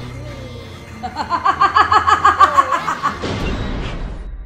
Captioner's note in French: rires démoniaques